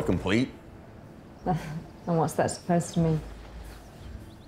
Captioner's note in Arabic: ضحكة مكتومة